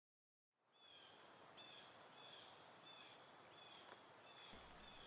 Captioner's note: distant birds squawk